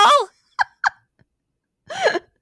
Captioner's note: laughing